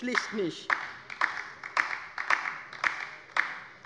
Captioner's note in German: Beifall bei der LINKEN